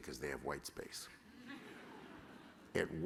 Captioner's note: laughter